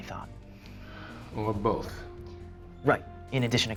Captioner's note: sigh